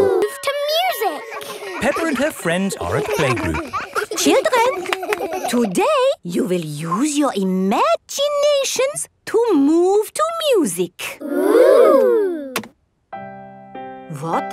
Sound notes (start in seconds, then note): 3.8 all laughing; 13.1 gentle piano music playing